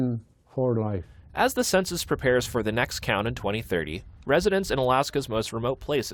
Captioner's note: voice-over